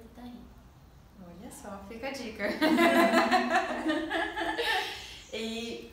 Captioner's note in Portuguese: risos